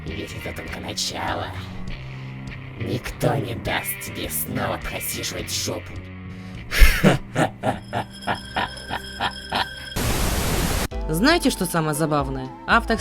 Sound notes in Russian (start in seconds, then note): 6.7 Смех злодея